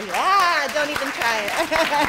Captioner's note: audience applauding